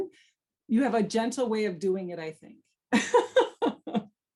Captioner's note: laughs